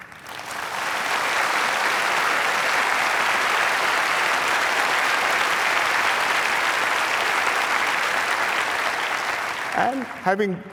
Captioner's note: applause